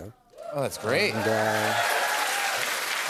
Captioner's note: cheers and applause